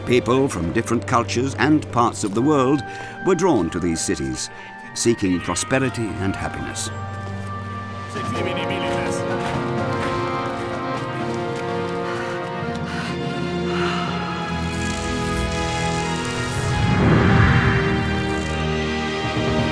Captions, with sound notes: People from different cultures and parts of the world were drawn to these cities, seeking prosperity and happiness. (suspenseful music) (boy panting) (awe-inspiring music)